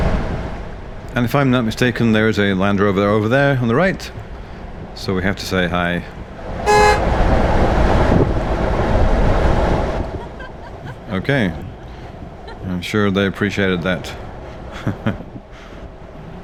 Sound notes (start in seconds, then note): 6.6 honks horn